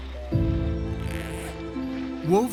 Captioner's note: zipper sliding